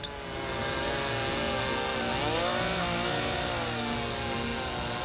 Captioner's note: saw motor buzzes